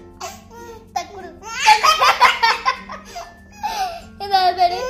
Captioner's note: laughing